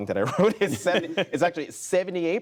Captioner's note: laughter